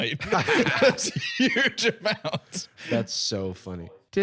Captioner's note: laughing